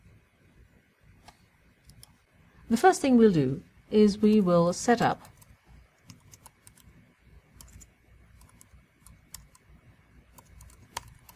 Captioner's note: pause